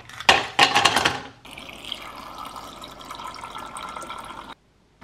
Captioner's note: pour cold water